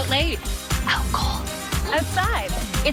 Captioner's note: whispering